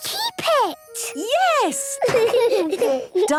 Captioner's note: laughter